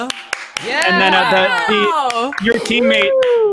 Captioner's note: applauding